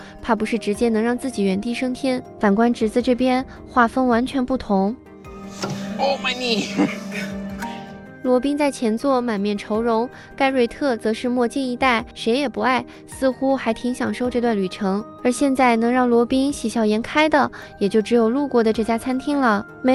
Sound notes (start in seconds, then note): 6.3 laughing